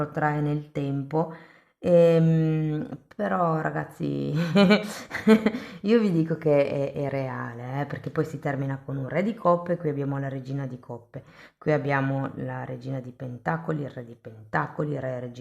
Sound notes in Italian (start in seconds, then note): 4.3 risate